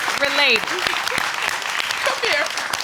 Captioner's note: audience applauding